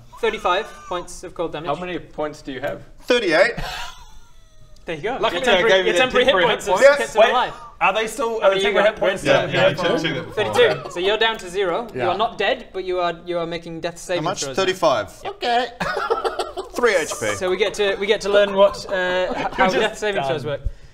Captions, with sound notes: 35 points of cold damage How many points do you have? 38! There you go! - your temporary hit points have kept him alive - Lucky I gave those temporary hit points! Are they still? - Are the temporary hit points... - How many you got Grinn? - Yeah, he checked that before - 32 32, so you're down to zero you are not dead but you are making death saving throws How much? 35? - Yep - Okay! *hysterical laugh* 3 HP So we get to learn what, - how death saving throws work - You're just done!